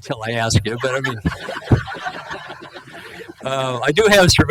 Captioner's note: laughing